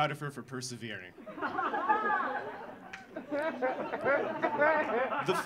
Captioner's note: audience laughing